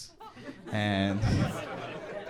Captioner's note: crowd laughs